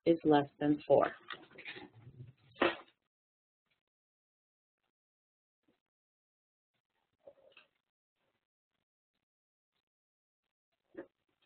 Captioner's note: silence